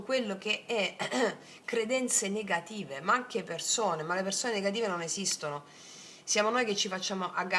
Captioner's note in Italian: schiarire la voce